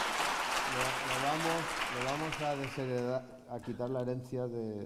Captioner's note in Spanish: Aplausos